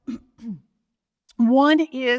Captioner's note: clears throat